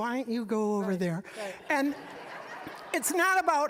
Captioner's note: audience laughing